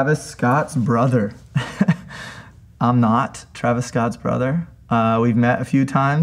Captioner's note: chuckles